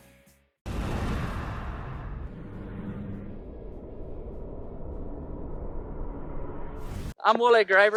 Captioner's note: whoosh